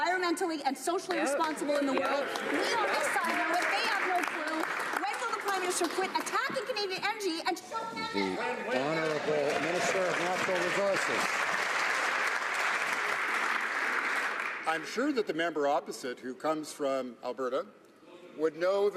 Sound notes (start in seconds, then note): 6.4 some Applause